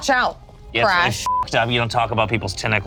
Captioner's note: beep